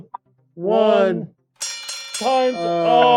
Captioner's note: bell ringing